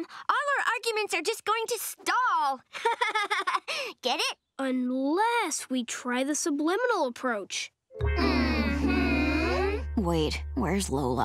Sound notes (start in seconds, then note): 2.8 laughing